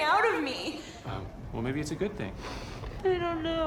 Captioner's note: sniffles